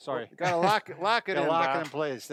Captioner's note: laughing